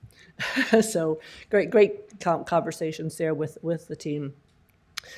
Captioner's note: laughter